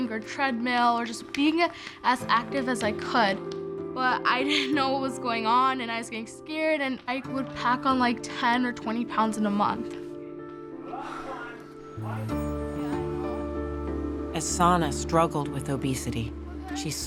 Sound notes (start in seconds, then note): 10.8 exhales